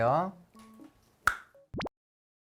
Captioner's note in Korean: 뿅!